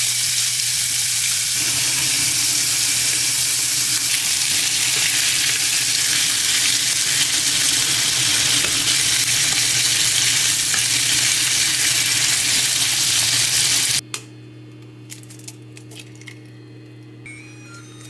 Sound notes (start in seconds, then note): 10.8 sizzle